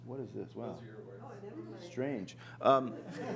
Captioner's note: chatter